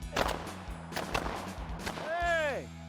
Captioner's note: gun bangs